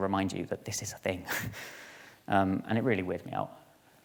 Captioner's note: chuckles